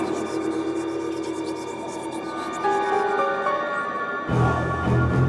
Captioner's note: voices whispering; suspenseful music